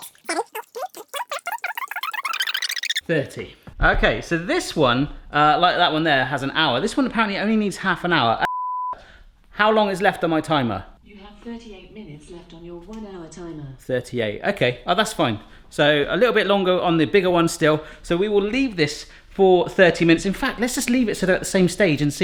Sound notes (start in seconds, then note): 0.9 fast forward squeaking; 8.4 beep